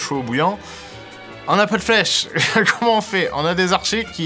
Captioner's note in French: rires